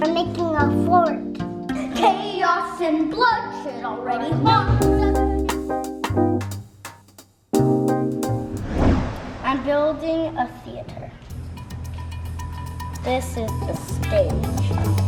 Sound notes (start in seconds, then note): 4.9 instrumental music; 8.3 air whooshing; 11.4 instrumental music